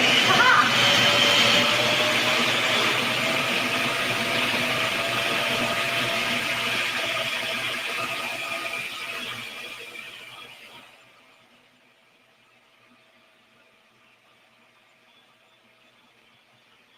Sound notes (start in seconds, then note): 0.3 food processor roaring; 7.3 food processor droning